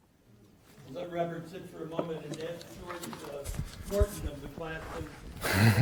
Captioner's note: voiceover